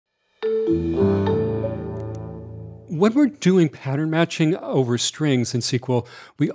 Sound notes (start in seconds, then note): 0.4 pleasant music; 2.0 mouse clicking